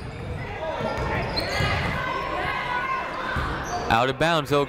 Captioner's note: people shouting in the crowd